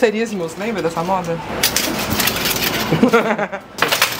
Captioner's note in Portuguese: metal chacoalhando